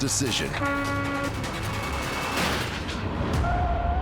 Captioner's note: horn honking